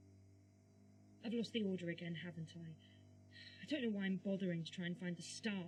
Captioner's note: sighing